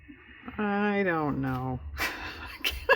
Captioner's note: laughs